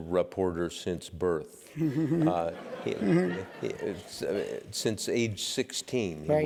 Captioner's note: laugh